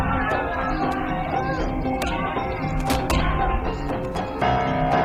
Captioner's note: muffled background yelling